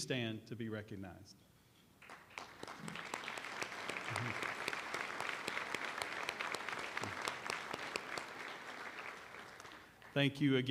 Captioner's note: applause